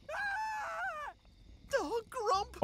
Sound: screams

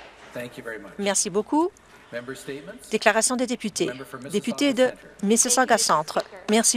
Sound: some Applause

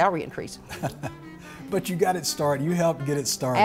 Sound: laughs

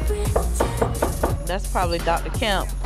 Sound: knocking

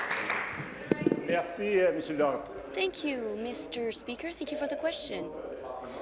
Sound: applause

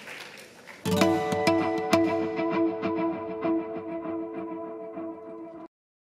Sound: applause

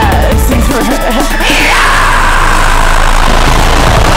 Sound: screams

